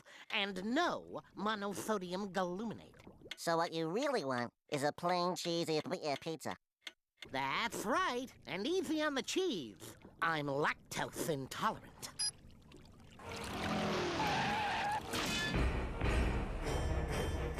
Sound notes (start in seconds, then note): 13.3 tires skidding